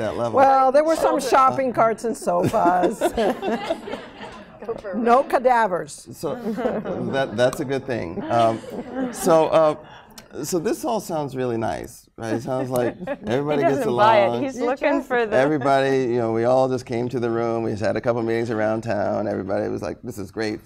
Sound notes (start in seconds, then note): 1.1 laughter